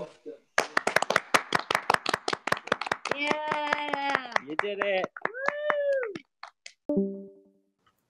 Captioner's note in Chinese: 语音一片掌声